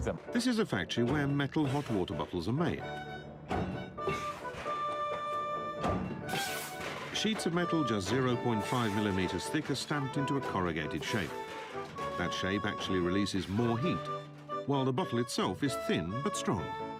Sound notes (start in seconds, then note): 3.2 machine stomping sounds; 3.2 upbeat background music